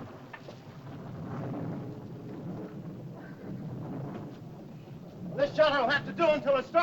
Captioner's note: thunder rumbles softly